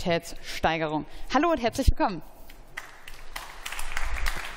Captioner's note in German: Beifall